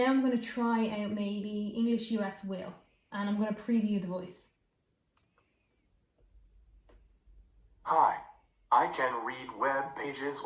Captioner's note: natural reader reads aloud